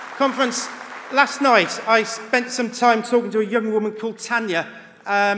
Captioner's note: applause